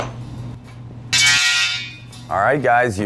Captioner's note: pipe clanging